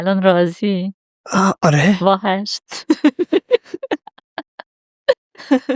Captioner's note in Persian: خنده